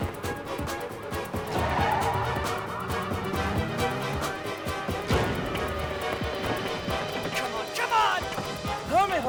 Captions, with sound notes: (tires screeching) Come on, come on!